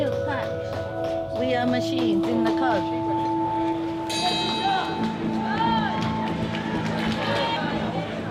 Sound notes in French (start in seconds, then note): 4.5 cloche sonne